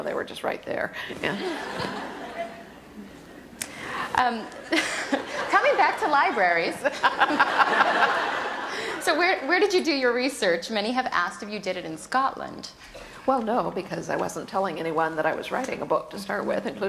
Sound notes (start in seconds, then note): 6.7 laughter; 6.8 laughs